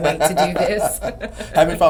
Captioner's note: laughs